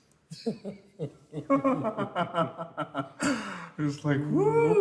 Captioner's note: both laughing